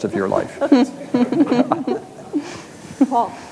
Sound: audience laughs

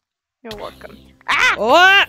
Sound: both scream

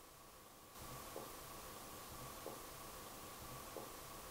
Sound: soft tapping

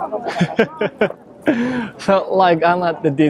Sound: chuckles

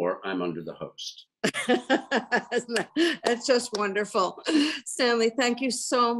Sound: laughs

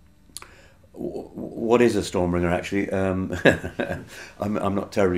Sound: laughing

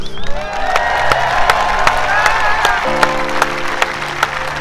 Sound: cheering

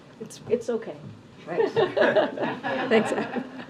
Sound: laughter

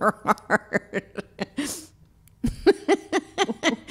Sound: laughing

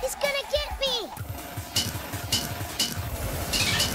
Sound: vrrrrrrr; clank clank clank; claclaclaclank

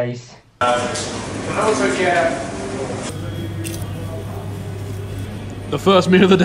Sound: chomping

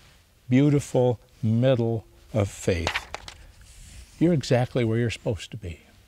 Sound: paper rustles

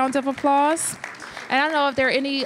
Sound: applause

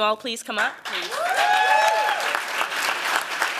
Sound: applause

